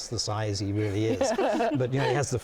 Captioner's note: women laughing